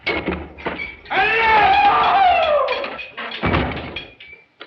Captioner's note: all shouting